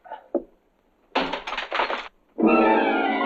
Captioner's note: glass shattering; intense dramatic music